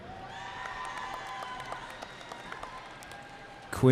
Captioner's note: cheering